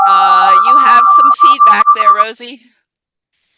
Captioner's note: audio feedback